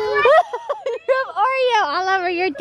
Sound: laughs

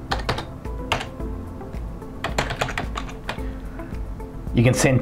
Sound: keyboard typing sound

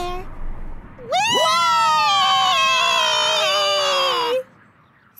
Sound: squealing

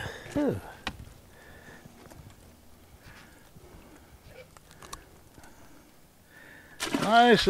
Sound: sighing; fish splashing

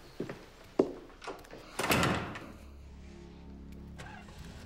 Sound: door slams; footsteps clomping

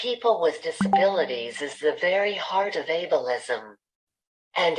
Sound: chat notification sound

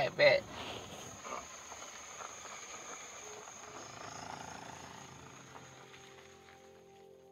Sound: outdoor night sounds

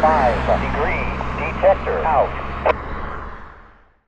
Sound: click

